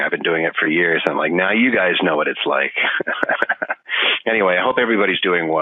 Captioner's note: laughing